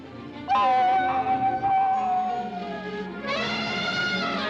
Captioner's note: Mowgli whoops; elephant trumpets